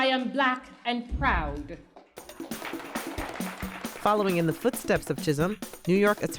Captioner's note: audience applause